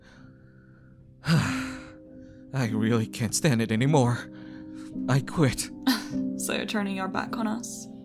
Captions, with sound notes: [Chase sighs] I really can't stand it anymore. I quit. So you're turning your back on us?